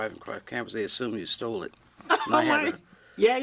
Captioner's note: laughs